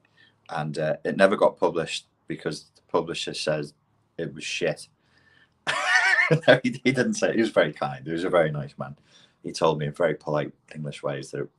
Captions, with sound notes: and it never got published. Because the publisher says it was shit. (laughs) He didn't say it, he was very kind. He was a very nice man. He told me in very polite English ways